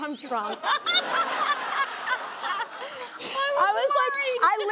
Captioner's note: audience laughing; laughs